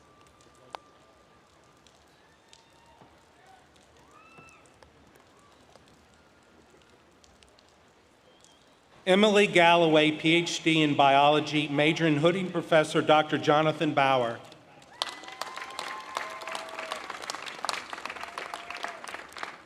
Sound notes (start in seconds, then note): 7.6 applause